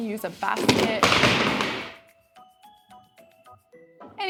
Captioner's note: boxes crash to floor